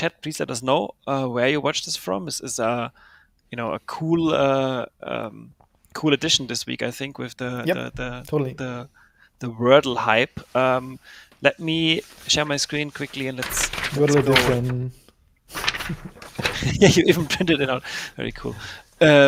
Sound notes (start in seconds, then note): 15.5 paper rustling